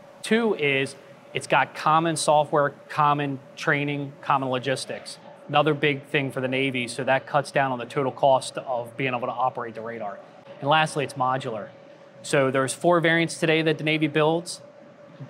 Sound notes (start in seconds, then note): none